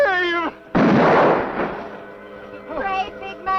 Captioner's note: gunshot